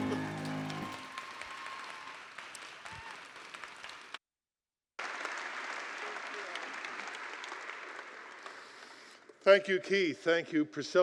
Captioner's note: applause